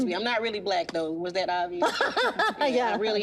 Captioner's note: laughs